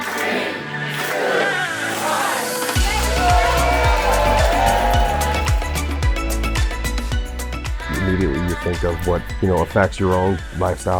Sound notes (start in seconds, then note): 4.5 crowd cheering; 6.2 upbeat dance music